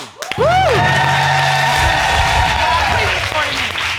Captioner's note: cheering and applauding